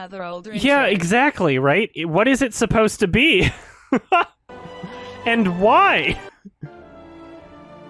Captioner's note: chuckles